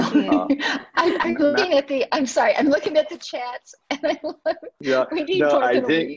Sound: she laughs

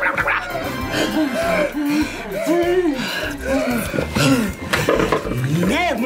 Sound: both panting

